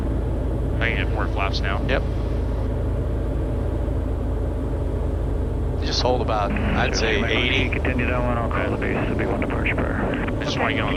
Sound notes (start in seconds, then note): 5.0 radio chatter